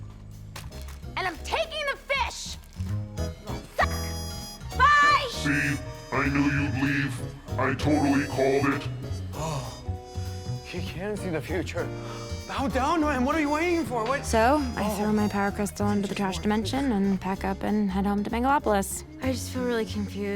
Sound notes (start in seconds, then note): 8.8 gasps